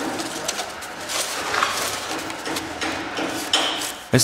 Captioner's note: hammering in the background